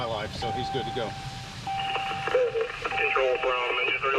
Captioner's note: police radio traffic